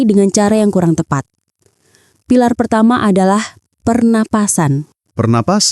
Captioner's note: breathing